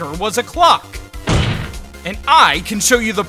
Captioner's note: slam